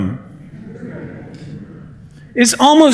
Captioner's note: laughter